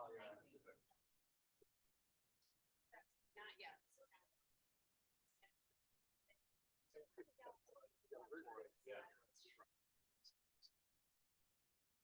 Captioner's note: no audio-break